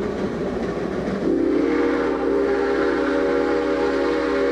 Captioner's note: train hoots and steams